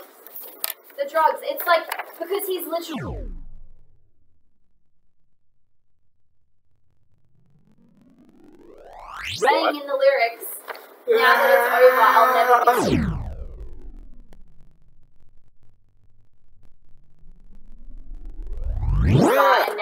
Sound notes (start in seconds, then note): 11.0 hand screaming